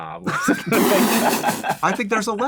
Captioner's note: laughter